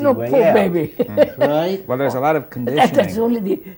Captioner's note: laughs